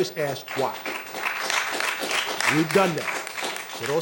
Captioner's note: applause